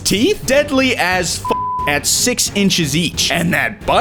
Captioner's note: beep